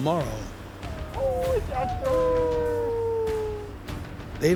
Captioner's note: howling